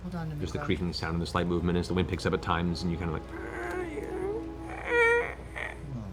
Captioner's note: creaking